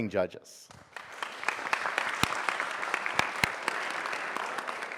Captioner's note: audience applauds